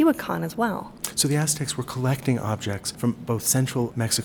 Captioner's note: voiceover